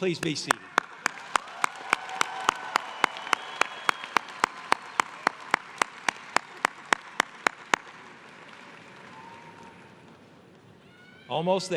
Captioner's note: applause